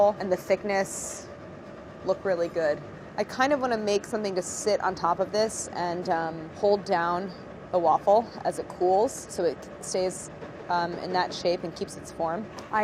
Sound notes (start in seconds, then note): none